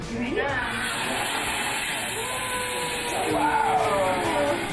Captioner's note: machine swooshing